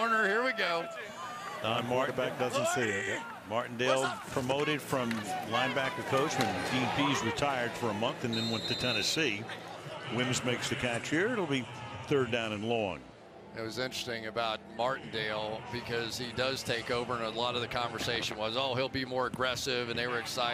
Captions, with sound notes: Slot corner. Here we go. Don Martindale. The back doesn't see it, yeah. Martindale promoted from linebacker coach when Dean Pees retired for a month and then went to Tennessee. [whistle] Wims makes the catch here. It'll be third down and long. That was interesting about Martindale because he does take over and a lot of the conversation was, oh, he'll be more aggressive